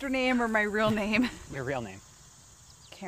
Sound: laughing

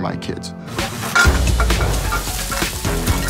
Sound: fire roaring; clinking

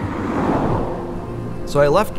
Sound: road noise

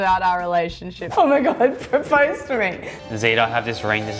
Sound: laughs

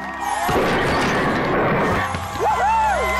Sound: crashing noise

